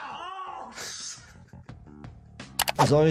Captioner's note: laughing